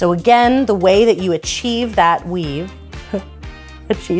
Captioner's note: giggles